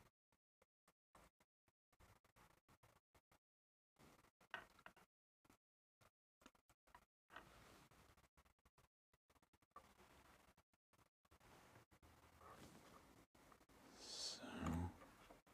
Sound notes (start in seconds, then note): 4.6 silence